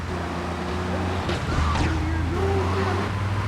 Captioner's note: yelling